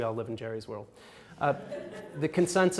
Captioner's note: audience laughs